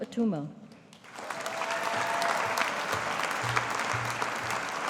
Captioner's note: audience applauding